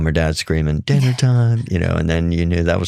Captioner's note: laughing